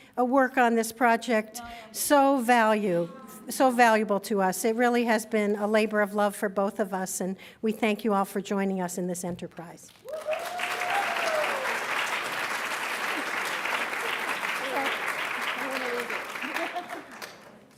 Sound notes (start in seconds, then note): 9.4 cheers; 9.7 applauds; 12.9 laughs